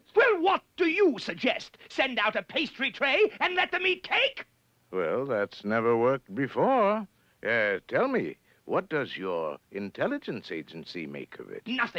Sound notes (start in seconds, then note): none